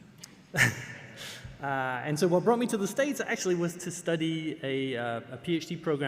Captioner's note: laugh